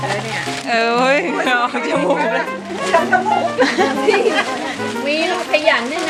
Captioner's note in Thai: เสียงหัวเราะ